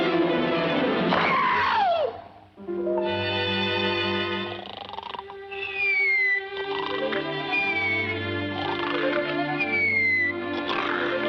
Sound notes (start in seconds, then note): 1.3 mallet thuds; 4.4 Petey snoring; 4.6 beak whistling